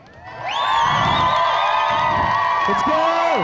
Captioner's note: audience cheering and applauding